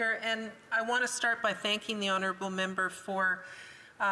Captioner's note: speaking indigenous language